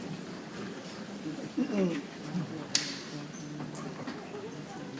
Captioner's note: people chattering softly